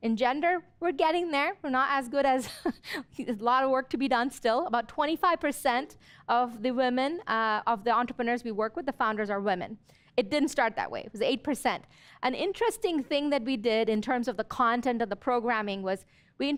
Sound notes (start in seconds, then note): 2.4 chuckles